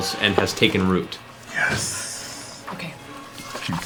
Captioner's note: whispered